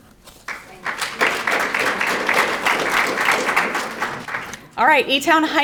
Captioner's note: audience applauding